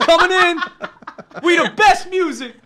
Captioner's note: laughs